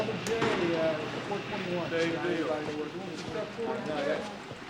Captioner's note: indistinct chatter